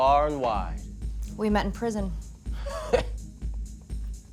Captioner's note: laughs